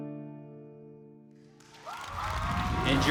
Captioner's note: audience cheering